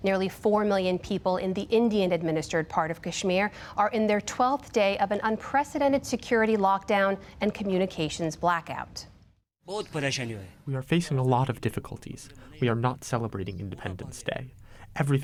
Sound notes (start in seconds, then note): 9.9 through translator